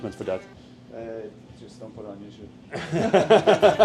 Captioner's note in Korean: ㅋㅋ